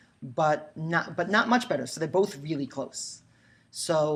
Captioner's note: none